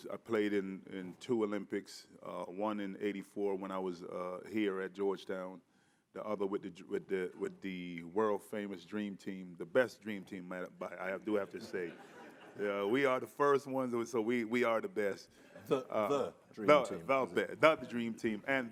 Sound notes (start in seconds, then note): 11.4 audience chuckling